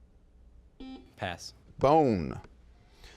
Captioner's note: buzzing